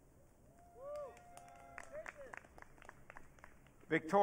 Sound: audience cheering

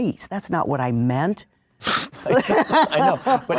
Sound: laughter

